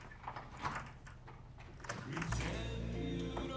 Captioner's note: lock clicks